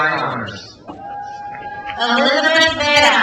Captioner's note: crowd cheers